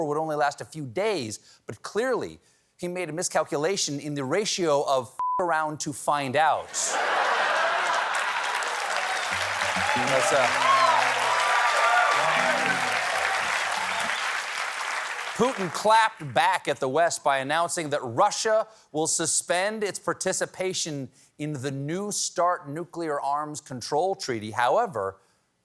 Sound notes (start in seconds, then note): 11.7 laughter; 14.3 cheers and applause